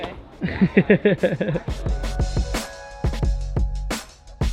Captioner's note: laughs